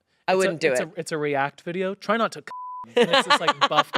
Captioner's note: beep